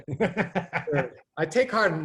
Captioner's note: laughs